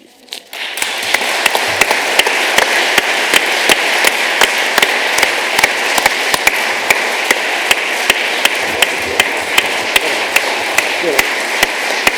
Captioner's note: applause